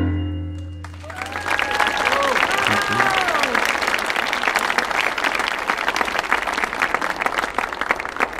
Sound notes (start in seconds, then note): 0.8 audience applauding